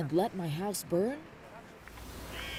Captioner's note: speaking Foreign Language